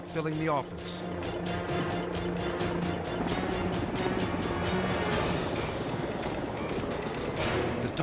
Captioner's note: dramatic music; helicopter droning